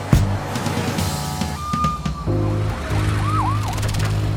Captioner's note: police sirens wailing